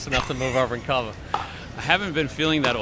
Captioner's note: laughs